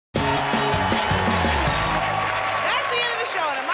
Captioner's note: cheers and applause